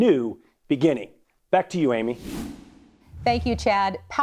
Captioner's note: screen whooshing